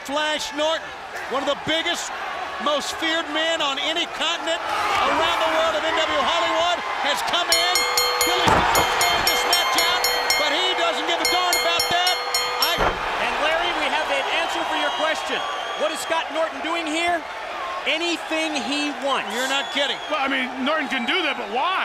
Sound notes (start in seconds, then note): 7.5 bell ringing